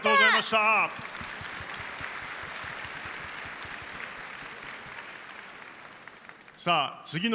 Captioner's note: applause